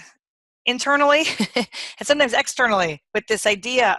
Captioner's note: chuckles